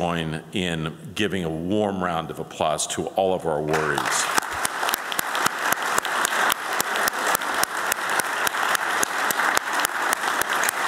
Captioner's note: applause